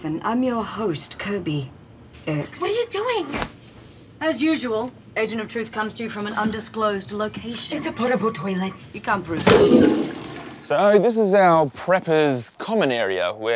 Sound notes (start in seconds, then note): 9.3 toilet flushes